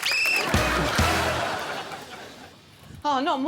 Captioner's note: blows whistle